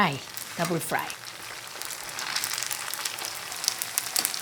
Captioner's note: oil bubbling